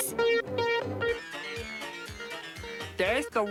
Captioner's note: beeping